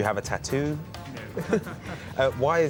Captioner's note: laughs